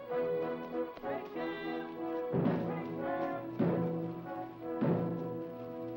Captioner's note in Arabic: يردد الرجال; ضربات الطبول